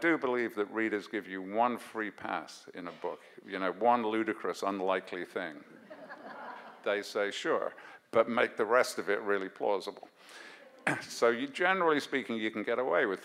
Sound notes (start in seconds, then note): 5.8 audience laughs